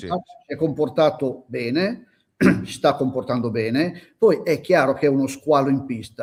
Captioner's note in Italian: schiarire la voce